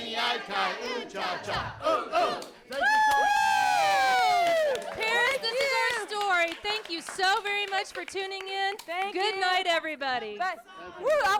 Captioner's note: cheering